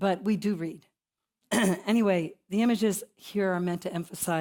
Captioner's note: cough